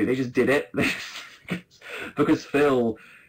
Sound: laughs

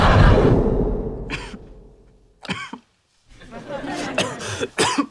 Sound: audience laughing; Sheldon coughing

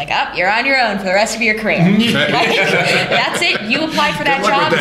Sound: laughter

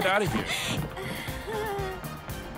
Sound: nervous laughter; sniffs

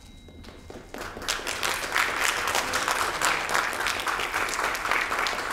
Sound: audience applauding

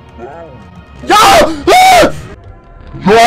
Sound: scream

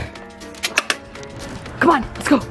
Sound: garage unlocks

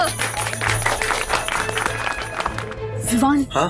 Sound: claps

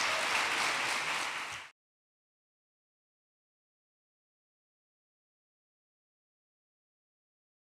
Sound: applause

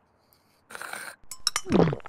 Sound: slurp; swallow

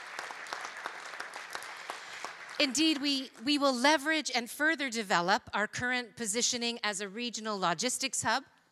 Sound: applause

